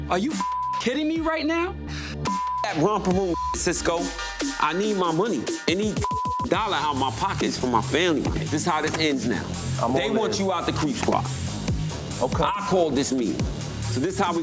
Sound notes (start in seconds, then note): 0.4 beep; 3.3 beep; 5.9 beep